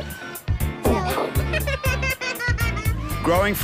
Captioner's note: boy laughs